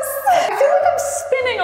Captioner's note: both laughing